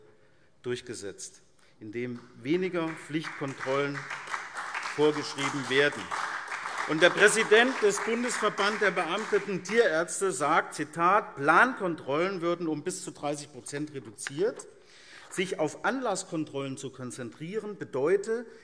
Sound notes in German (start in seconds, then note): 6.1 Beifall SPD